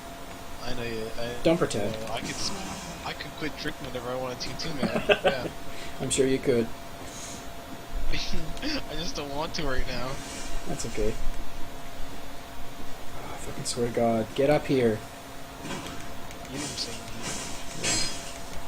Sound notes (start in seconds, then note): 4.6 laughing; 8.5 chuckling